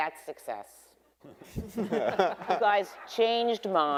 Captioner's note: everyone laughing